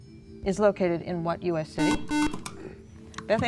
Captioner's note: beeping